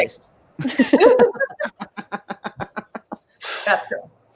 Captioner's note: all laughs